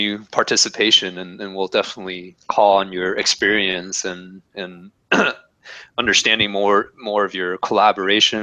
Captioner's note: cough